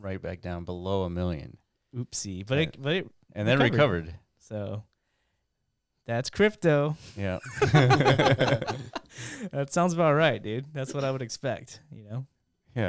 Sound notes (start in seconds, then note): 7.6 laughing